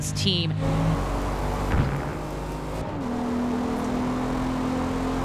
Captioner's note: engines roaring